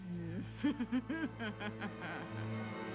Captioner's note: nasty laugh